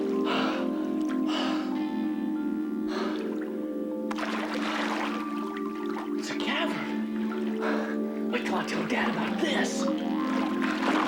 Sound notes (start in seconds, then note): 0.1 Will panting; 4.0 water splashing; 10.8 water splashing